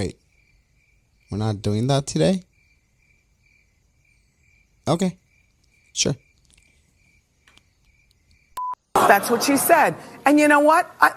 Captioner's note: quick static BEEP